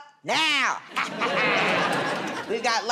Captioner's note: laughter